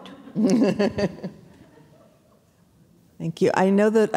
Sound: audience chuckling

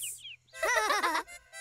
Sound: laughing

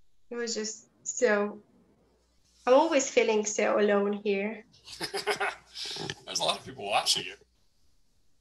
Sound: laughs

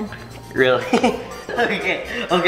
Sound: chuckles

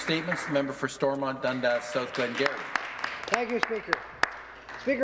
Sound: some Applause

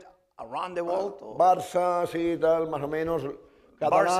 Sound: speaking spanish

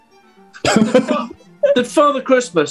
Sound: laughing

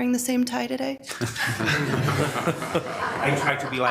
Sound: attendees laughing

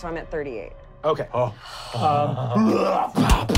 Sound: sighing; growling

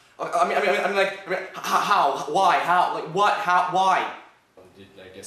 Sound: stumbling over words

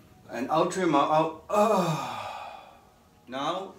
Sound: exhales

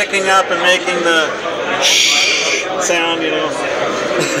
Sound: shhhhh

